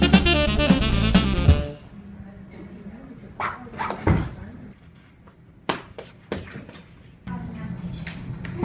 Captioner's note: making silly noises